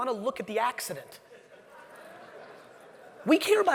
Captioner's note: audience laughing